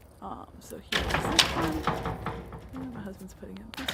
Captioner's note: metal banging